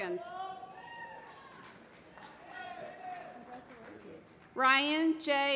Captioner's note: applause